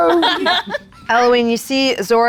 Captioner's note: group laughs